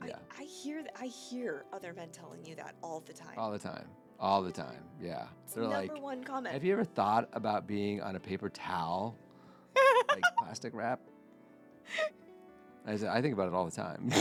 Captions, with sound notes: I hear other men telling you that all the time. All the time, all the time, yeah. So you've never won comments. Have you ever thought about being on a paper towel? (laughing) Like plastic wrap? I think about it all the time.